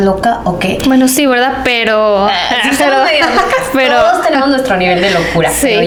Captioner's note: laughs